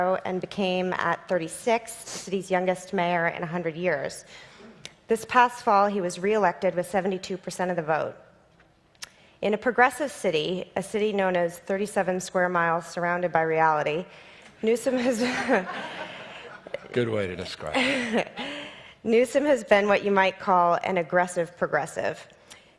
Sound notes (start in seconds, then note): 15.0 audience laughs